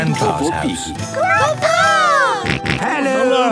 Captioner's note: George snorts